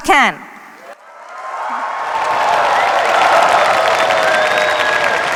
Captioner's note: cheers, applause